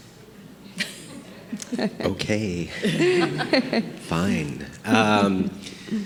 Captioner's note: group laughing